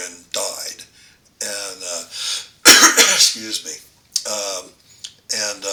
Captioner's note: coughs